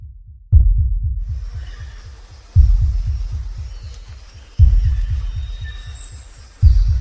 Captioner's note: birds chirping; bugs buzzing